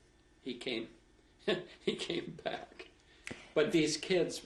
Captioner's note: laughs